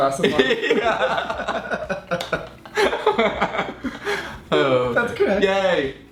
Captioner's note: laughing